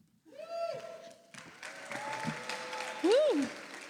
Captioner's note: applause